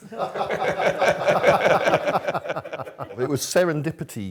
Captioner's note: laughter